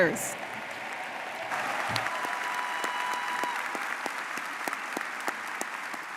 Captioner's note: audience cheering and applauding